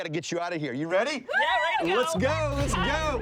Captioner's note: cheers